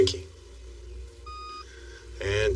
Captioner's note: machinene beeps